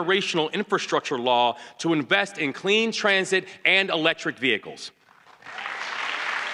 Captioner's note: applause